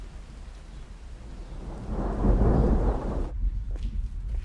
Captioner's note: thunder rolling